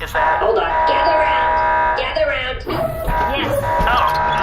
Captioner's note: Bargie’s alarms go off